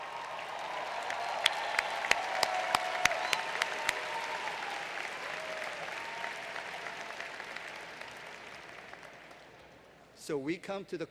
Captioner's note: applause